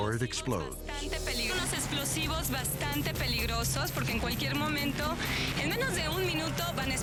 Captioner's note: speaking in foreign language